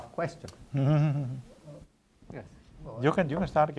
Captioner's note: chuckles